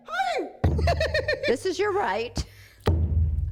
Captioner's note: laughs